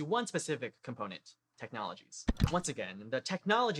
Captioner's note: click